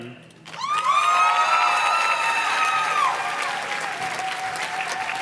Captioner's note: audience cheers and claps